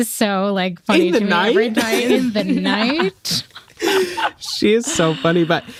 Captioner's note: laughs